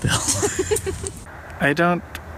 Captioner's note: giggles